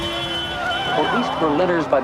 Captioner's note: car horn beeps